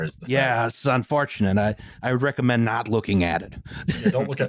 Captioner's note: laughs